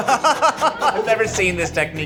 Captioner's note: laughs